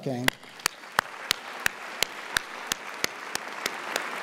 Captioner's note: audience applauds